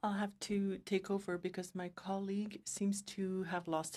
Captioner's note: speaking French